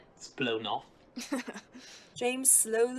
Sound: Crouch snickers

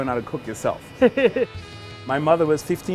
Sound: laughs

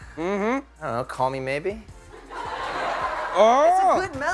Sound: laughter

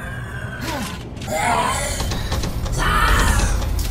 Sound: growls in rage and shock

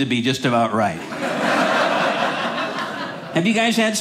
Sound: audience laughing

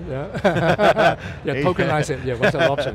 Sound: laughs

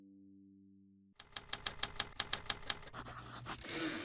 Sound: typewriter sounds; typewriter dings

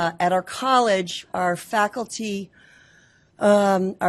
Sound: none

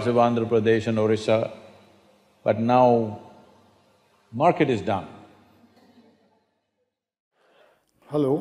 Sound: few Laugh

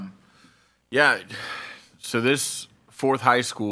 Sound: none

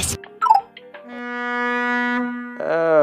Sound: boat horn approaches

